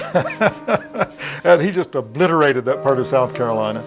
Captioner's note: laughing